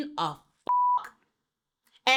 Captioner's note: beep